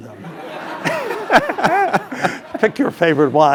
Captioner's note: laugh